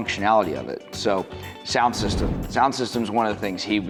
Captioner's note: graphics whooshing